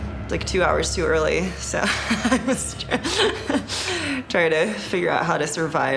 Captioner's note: laughs